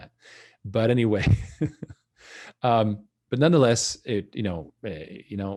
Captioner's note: laughs